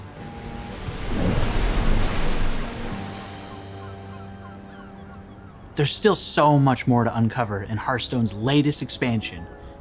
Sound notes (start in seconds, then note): 0.3 water whooshing; 2.9 gulls squawking